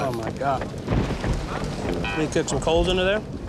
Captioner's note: thunder rumbling